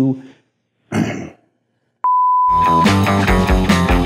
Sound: beep; clears throat; groovy music

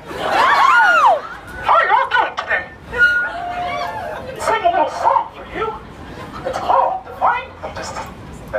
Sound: laughs

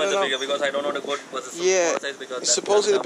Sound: wind blows

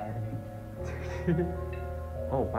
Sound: giggles

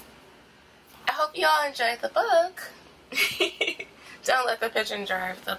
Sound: laughing

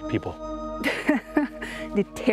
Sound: laughs

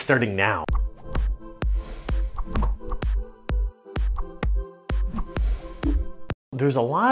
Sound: upbeat funky music; text swishing

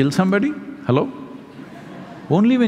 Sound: laughter

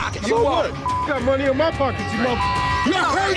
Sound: beep

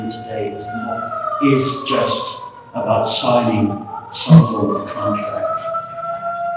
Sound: siren

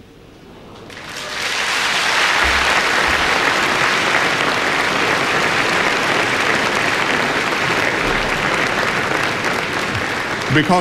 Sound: applause

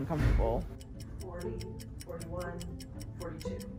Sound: clock ticks

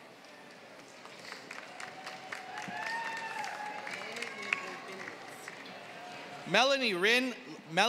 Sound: applause

